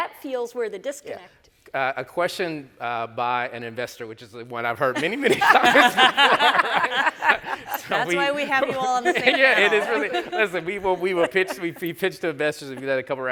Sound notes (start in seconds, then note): 4.9 panelist laughing